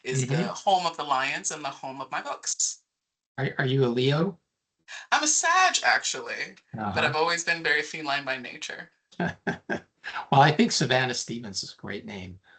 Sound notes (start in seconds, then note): 9.2 laughing